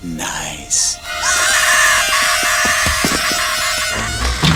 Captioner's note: Sid screaming